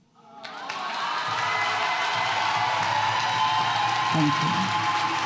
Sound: audience applauds and cheers

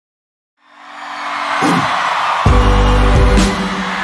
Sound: audience cheering

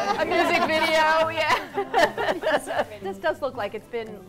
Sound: laughs

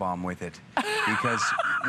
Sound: laughter

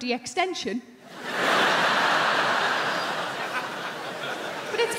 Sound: crowd laughing

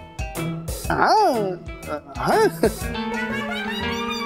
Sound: stammering

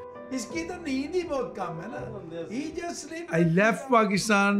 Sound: speaking Urdu

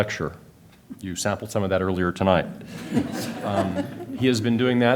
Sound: laughter

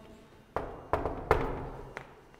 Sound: knock, knock

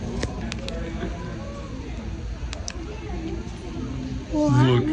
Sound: flashlight clicks

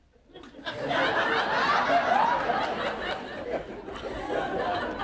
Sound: audience laughing

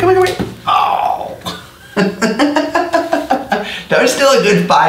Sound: laughs

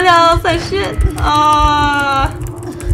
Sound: whines

